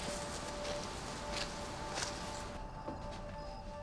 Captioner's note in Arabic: يغلق الباب